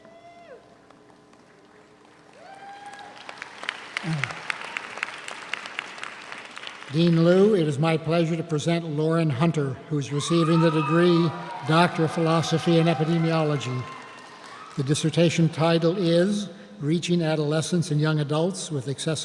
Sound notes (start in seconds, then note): 2.3 audience cheers; 2.9 audience applauds